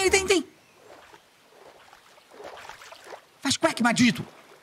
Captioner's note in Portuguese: som de água